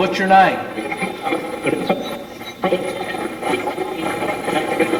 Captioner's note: Steve's Box chatters